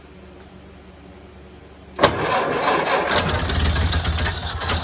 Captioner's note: engine cranking; engine dies; engine sputtering/idling